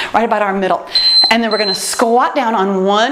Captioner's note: timer beeps